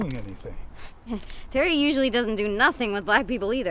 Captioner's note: scoffs